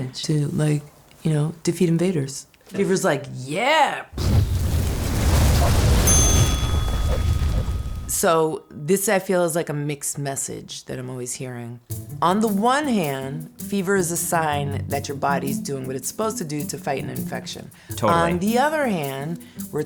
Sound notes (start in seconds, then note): 4.1 flames billowing; 6.0 bell ringing; 11.9 peppy music